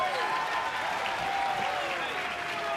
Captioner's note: cheers & applause